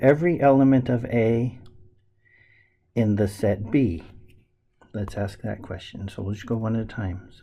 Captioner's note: none